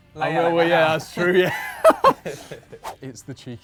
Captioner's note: laughs